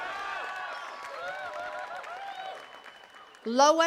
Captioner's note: attendees cheering and clapping